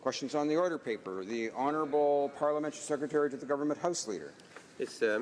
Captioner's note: speaking French